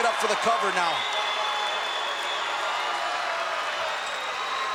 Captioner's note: crowd yelling